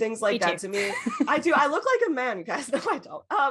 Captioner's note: laughs